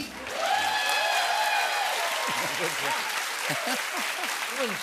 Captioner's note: cheers and applause